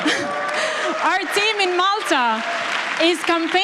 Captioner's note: applause